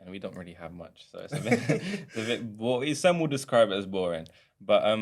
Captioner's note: laughter